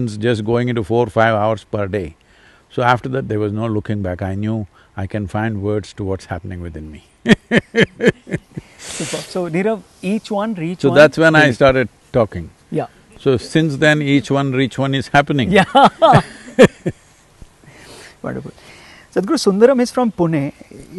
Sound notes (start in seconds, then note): 7.3 laughs; 15.5 both laugh